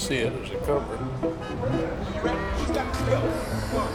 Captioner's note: car horns